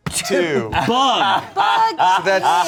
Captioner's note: laughing